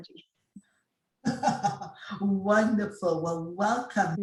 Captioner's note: laughs